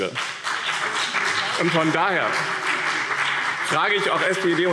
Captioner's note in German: Beifall BÜNDNIS 90/DIE GRÜNEN und CDU